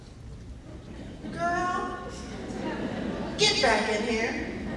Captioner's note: laughing